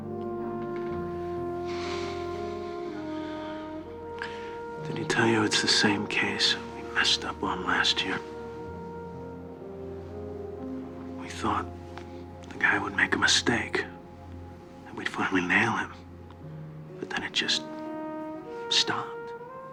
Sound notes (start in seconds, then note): 1.6 sighs wearily